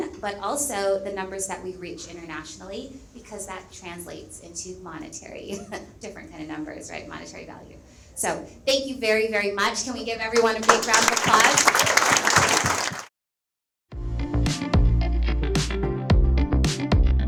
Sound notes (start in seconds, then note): 10.3 audience applauds loudly; 14.2 calm upbeat music